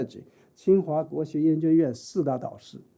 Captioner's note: speaking chinese